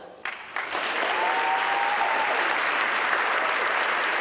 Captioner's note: audience clapping